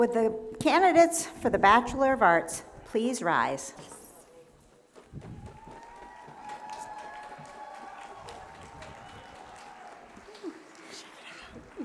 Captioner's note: short pause